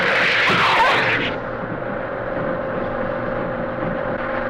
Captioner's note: air whooshes